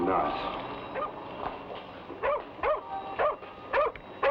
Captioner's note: dog barks